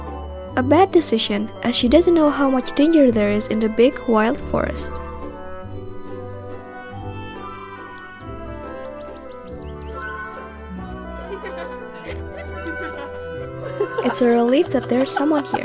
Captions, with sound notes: a bad decision, as she doesn't know how much danger there is in the big wild forest. (Laughing sound heard) It's a relief that there's someone here.